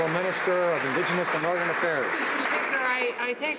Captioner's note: some Applause